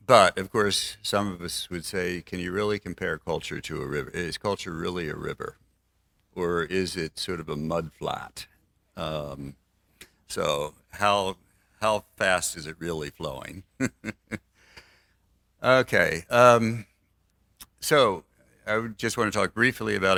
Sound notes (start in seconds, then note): 13.6 laughs